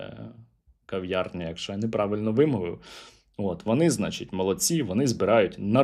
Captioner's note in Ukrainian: сопіння